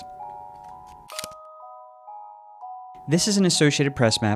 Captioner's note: gentle music; camera shutter snaps